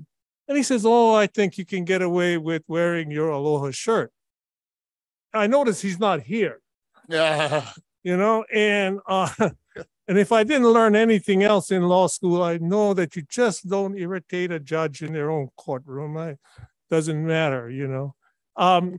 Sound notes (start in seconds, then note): 7.1 he laughs